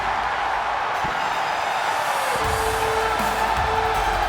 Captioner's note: upbeat music; audience cheers